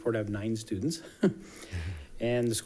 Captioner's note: chuckling